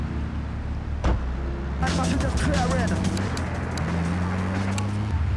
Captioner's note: speaking in foreign language